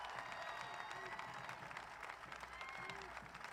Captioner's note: applause